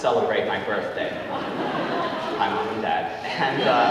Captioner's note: audience laughing